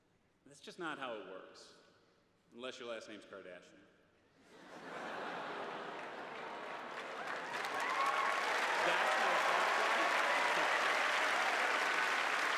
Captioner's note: cheers and applause